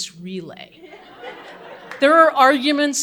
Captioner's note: audience laughing